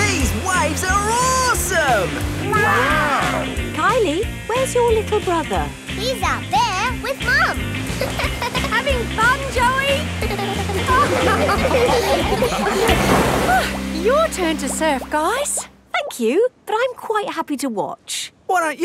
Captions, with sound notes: These waves are awesome! Wow! Kylie? Where's your little brother? He's out there with Mum. -(GIGGLES) -Having fun, Joey? (LAUGHING) Oh! Your turn to surf, guys! Thank you, but I'm quite happy to watch.